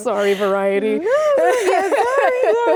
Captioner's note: Rachel laughs; laughs; Rachel laughs